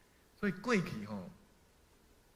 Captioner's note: hokkien language